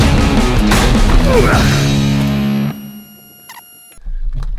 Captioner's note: grunts